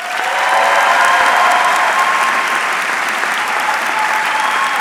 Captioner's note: audience cheering